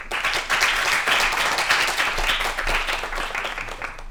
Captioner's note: applause